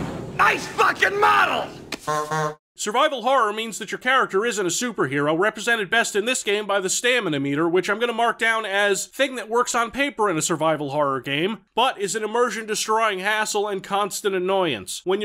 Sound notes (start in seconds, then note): 2.0 honk honk